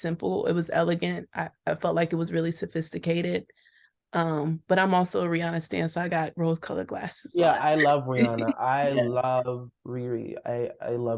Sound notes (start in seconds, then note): 7.4 laughs